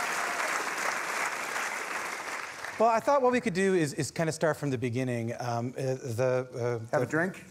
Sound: applause

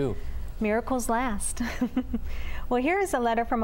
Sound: laughter

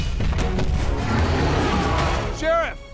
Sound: loud footsteps; dinosaur roars

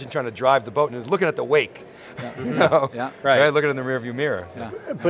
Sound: laughs

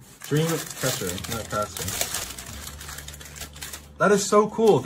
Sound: plastic rustling

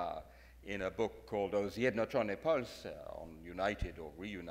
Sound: speaks in foreign language

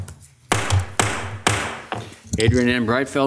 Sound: gavel banging

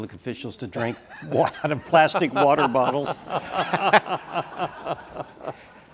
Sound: laughter

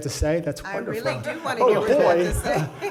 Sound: laughing

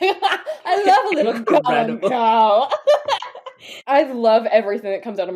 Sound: laughing

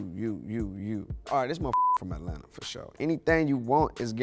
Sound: beep

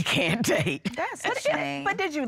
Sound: laughing

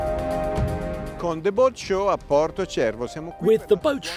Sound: speaking in foreign language

